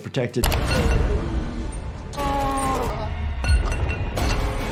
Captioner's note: metal clattering, man moaning